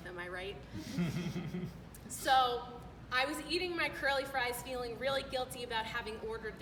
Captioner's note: laughter